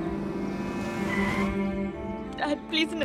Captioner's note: Car brakes being applied